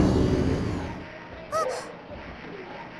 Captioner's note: gasp